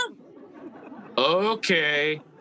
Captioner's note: audience laughing